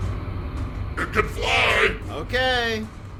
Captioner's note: distant, shouting